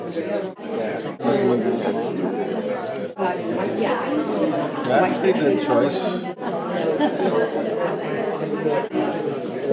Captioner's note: crowd murmering